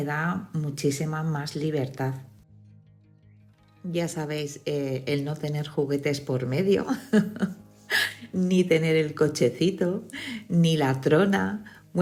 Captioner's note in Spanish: risas